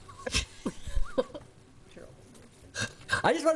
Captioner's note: laughs